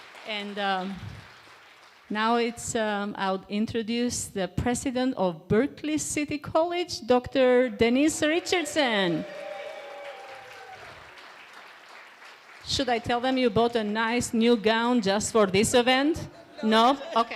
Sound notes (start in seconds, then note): 8.2 cheer